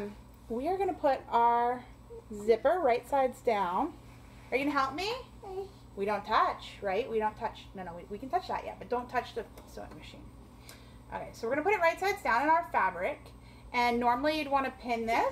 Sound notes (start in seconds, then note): 5.4 child babbling